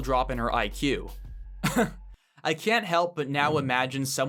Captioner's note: laugh